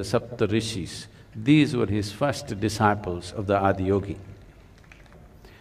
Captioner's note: applause; 掌聲